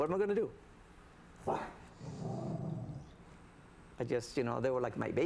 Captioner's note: dog growls